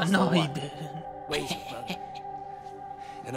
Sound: chuckling

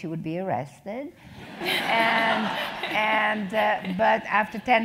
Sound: laugh

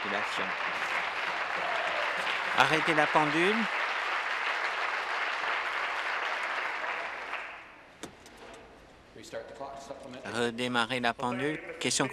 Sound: applause

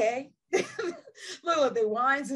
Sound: chuckles

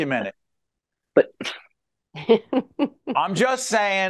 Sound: laughing

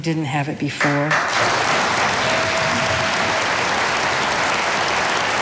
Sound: audience applauding

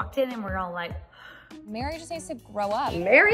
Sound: gasps

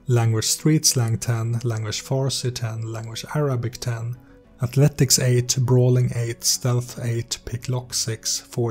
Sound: Farsi; Arabic

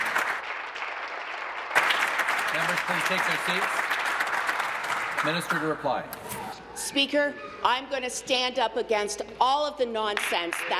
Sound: applause

